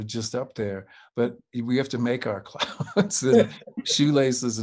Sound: chuckles

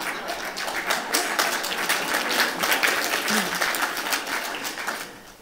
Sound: laughter and Applause

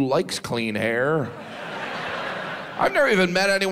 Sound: audience laughs

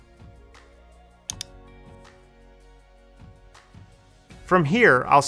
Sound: mouse clicking

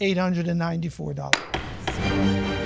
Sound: gavel banging

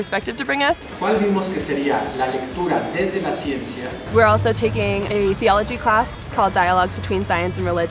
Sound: professor speaking Spanish

